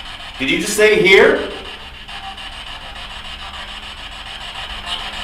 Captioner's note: static buzzing